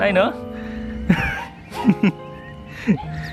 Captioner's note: laughing